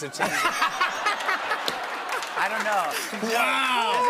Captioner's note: laughter